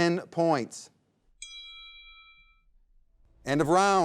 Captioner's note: bell dings